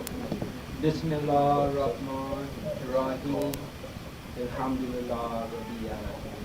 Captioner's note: speaking in foreign language